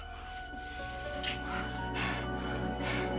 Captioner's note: panting